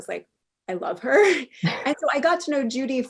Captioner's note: laughs